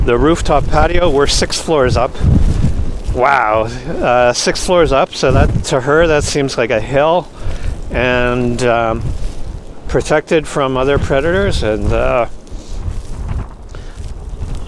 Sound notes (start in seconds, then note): 3.8 wind